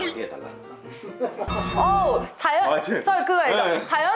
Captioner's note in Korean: 웃음